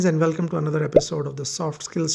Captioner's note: bubble popping